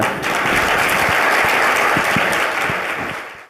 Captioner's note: audience applauding